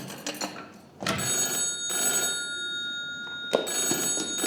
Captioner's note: phone rings